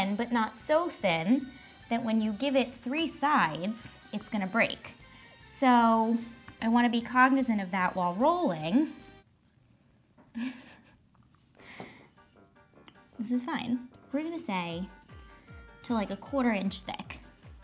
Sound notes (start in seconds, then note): 10.3 laughs; 12.0 whimsical klezmer music